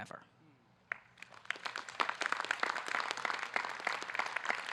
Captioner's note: audience clapping